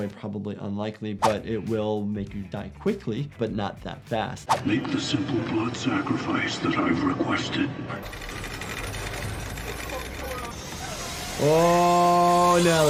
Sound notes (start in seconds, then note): 4.8 voiceover; 8.0 chains pulling